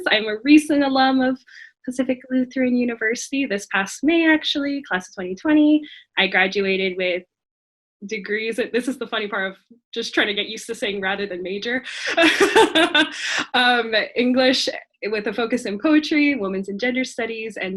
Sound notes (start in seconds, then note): 12.0 laughing